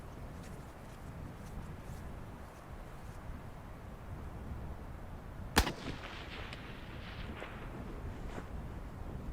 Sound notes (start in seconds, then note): 5.6 gun shot